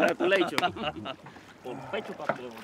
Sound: patting back; laughing

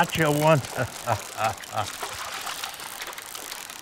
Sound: chuckles; sighs

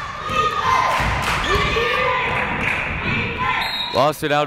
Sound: crowd chanting defense

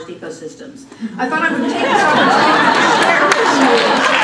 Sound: laughter

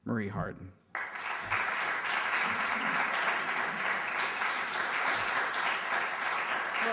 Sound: applause

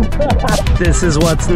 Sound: laughing

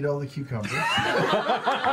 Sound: laughing

